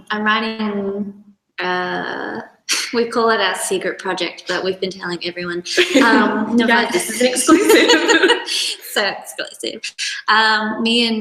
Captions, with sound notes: I'm writing, we call it our secret project, but we've been telling everyone. (laughs) - You guys, this is exclusive. (both laughs) - So exclusive.